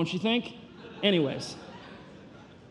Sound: congregation laughing

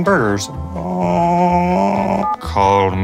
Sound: groaning

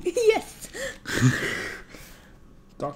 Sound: laugh

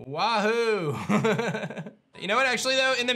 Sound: soft laugh

